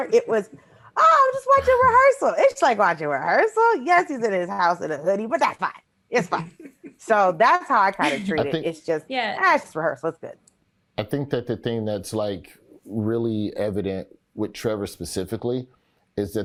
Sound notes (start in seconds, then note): 6.1 Eric laughs